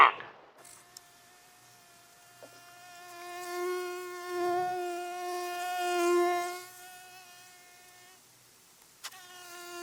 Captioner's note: forest atmosphere / a mosquito gets louder and louder